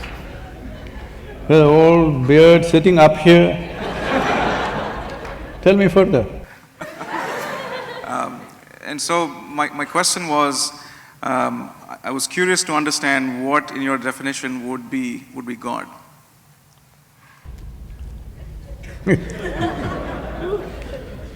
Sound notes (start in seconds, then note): 0.1 laughter; 3.6 laughter; 18.4 laughs